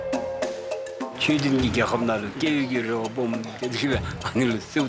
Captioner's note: dzongkha spoken audio